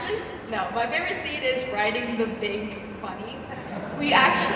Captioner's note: audience laughs